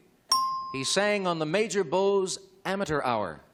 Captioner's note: ding